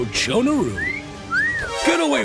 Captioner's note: whistle